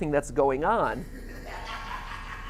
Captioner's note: Molten Freddy laughs